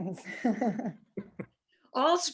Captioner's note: laughs